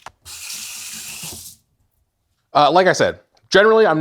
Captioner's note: water spattering